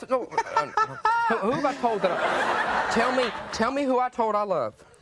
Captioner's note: audience laughing